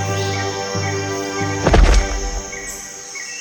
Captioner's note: thud